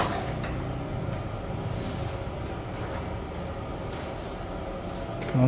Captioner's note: press machine noise; covering paper noise